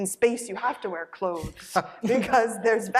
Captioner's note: laughter